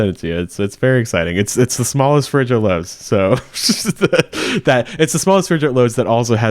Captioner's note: laughs